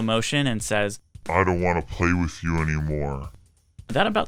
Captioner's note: slo-mo voice